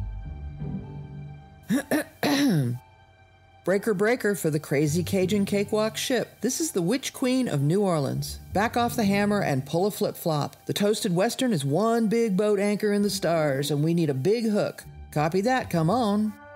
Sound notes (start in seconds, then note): 1.7 Namida clears throat